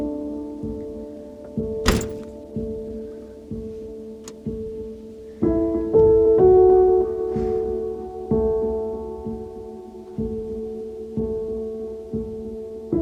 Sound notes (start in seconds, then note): 1.8 door thuds